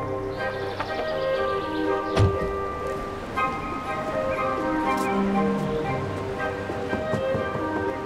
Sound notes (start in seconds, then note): 2.1 car door slams